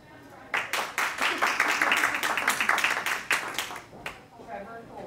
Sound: hands clapping

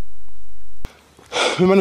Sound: breath

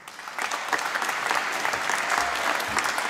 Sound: applause

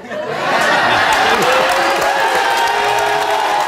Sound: audience cheering

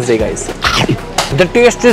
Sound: munching

